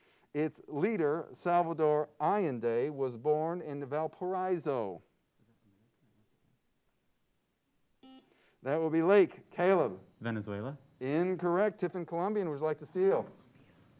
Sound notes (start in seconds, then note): 8.0 buzzer sounds